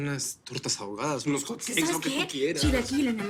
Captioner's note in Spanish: none